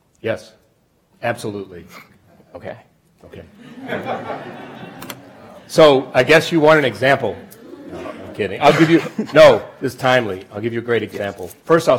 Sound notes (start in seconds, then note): 3.5 audience laughs